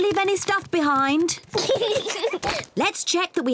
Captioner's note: both laugh